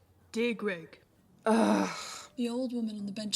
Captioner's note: Regulus groans